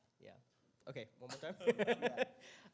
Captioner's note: laughs